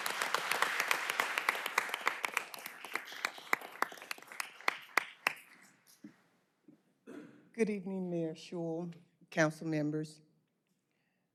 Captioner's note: applause